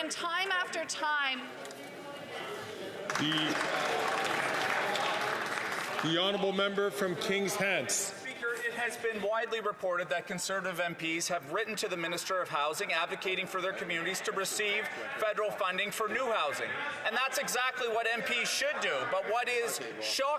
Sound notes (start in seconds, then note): 7.4 some Applause